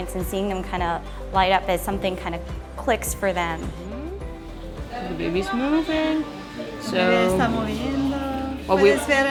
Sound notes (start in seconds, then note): 6.9 spanish